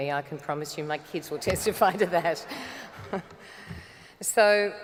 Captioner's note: chuckles